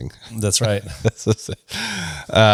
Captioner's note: laughs